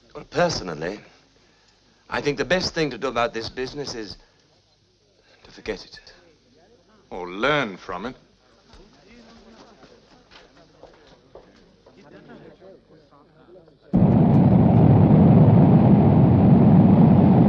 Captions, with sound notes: Personally, I think the best thing to do about this business is forget it. - Or learn from it. (people chattering) (plane whirring)